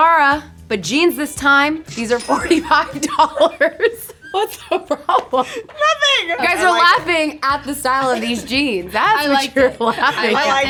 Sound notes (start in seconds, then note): 1.9 cash register dinging; 2.4 laughing; 2.4 laughs; 9.6 laughing